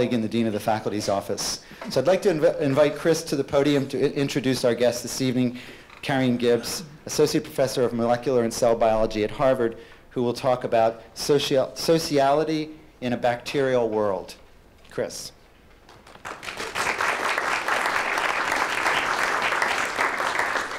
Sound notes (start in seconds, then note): 15.8 applause